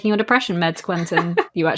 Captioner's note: laughs